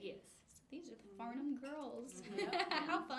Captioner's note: laughs